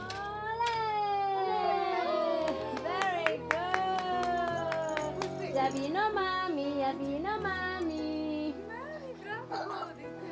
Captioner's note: cheering and singing